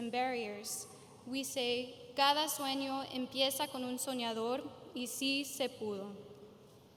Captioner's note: speaking in foreign language